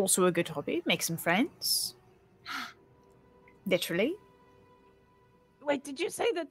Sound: gasps

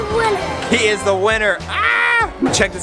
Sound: screams

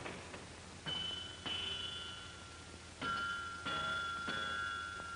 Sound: metal clangs

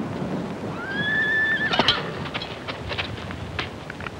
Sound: horse neighing

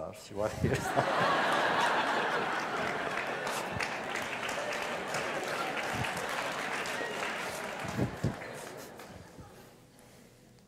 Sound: laughter

